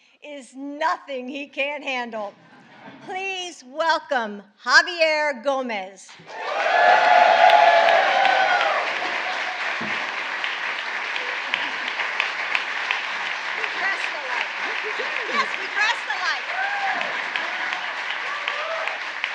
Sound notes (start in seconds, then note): 1.9 laughter; 7.7 applause